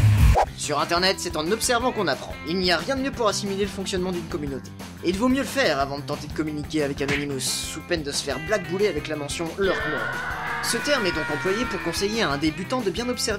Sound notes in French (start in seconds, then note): 9.6 cri